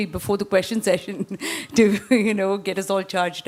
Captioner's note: laughs